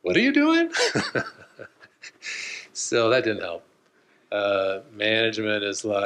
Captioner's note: laughs